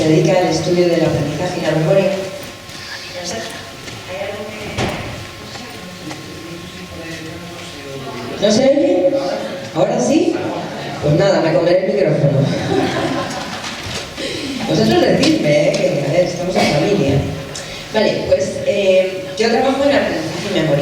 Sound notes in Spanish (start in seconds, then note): 12.4 risas